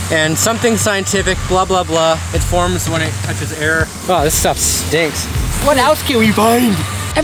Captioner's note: none